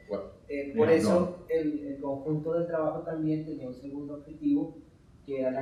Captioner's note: speaking in Spanish